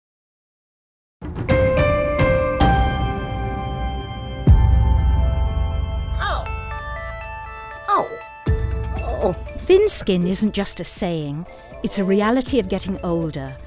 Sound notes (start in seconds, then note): 6.2 lively music; 8.9 groaning